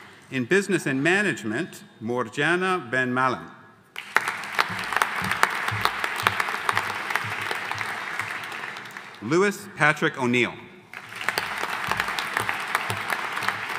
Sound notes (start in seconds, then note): 3.9 audience applauding; 10.9 audience applauding